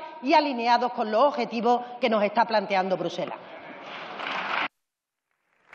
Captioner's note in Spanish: Aplausos